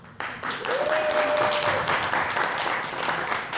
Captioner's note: audience Applauding